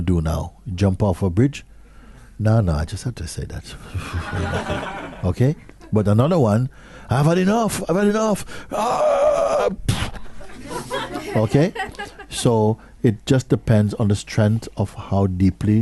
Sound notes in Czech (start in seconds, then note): 4.0 smích; 10.4 smích